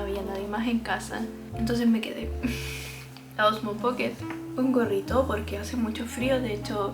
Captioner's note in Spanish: carraspeo